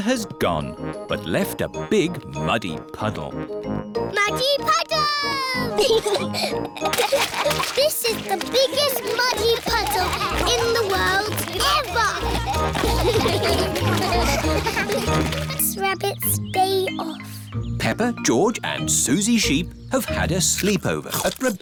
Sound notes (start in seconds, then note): 5.7 both giggling; 12.0 all giggling